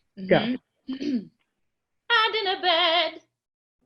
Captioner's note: clears throat